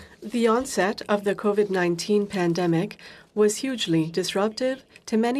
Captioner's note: speaking French